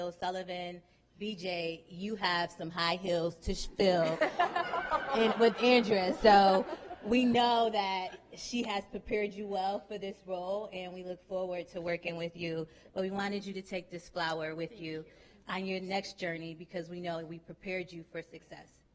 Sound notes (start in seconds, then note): 6.4 laughing